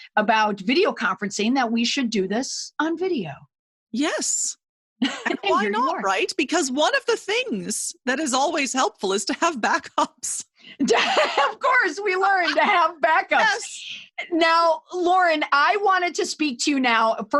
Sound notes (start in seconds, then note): 10.8 chuckles; 10.8 laughs